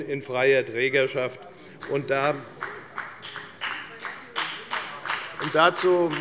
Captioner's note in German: Beifall bei der FDP